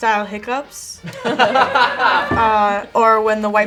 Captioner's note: group laughs